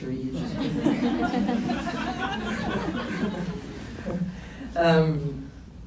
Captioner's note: laughs